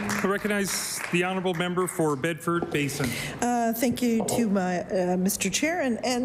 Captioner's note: applause